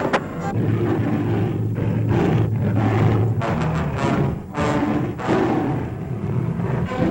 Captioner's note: dramatic music; roaring